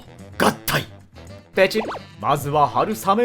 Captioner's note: chop